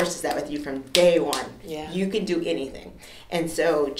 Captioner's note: clapping hands